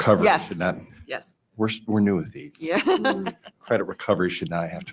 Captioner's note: laughing